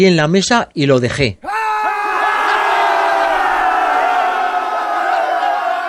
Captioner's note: shouts of joy to reach 1,000 subscribers